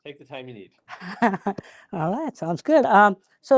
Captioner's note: laughs